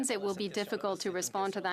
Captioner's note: speaking French